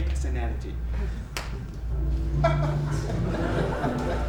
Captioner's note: snap